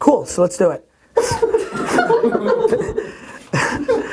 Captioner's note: laughing offscreen